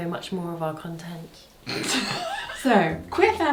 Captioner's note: laughs